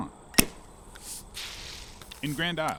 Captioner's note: top popping